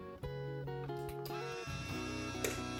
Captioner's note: click